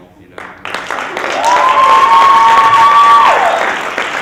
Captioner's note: loud Cheering!